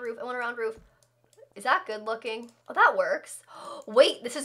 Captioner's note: gasp